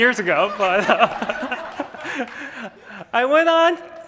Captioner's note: laughs